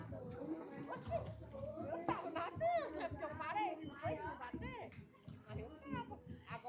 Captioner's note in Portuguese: risadas